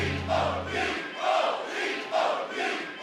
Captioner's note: fans chanting